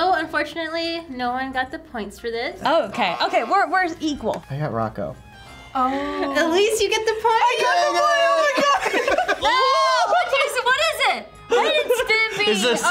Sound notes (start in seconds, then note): 2.8 buzzer rings; 7.7 laughs